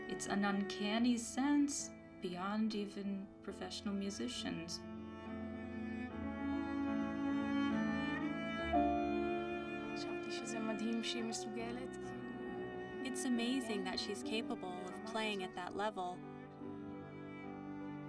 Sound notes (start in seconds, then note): 4.9 piano and cello play; 10.4 speaking foreign language